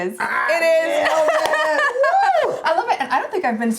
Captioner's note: chuckles